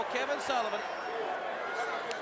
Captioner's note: crowd cheering